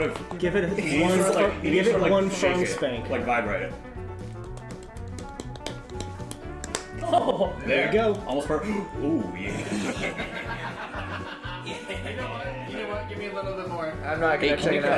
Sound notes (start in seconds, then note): 8.5 gasp